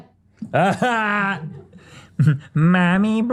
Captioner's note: laughs